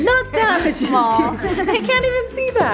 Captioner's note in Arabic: يضحك